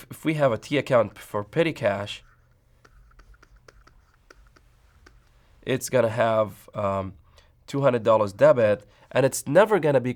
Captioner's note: writing sounds